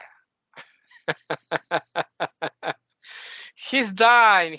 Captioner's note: laughing